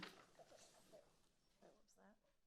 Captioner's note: speaking faintly